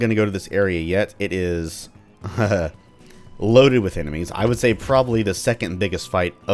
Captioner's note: nervous chuckle